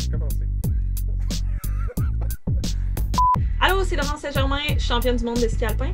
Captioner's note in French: rires